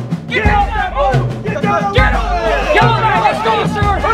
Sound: shouting

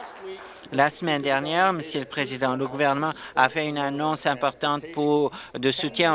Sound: applause

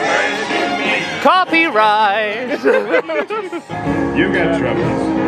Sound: laughs

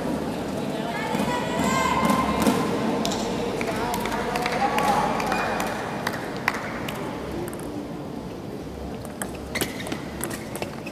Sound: applause

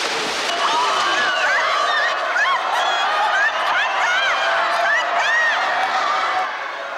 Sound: crowd cheer

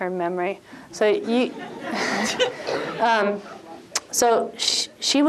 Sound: laughter

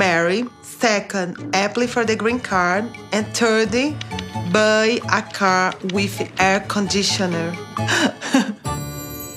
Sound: laughs

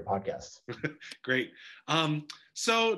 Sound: chuckles

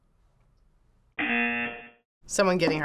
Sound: buzzer

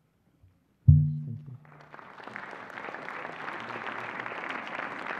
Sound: applause

